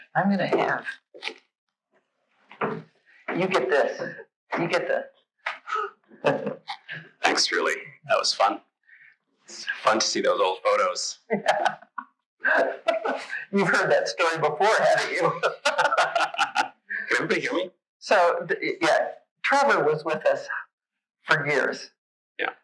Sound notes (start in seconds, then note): 12.4 laughs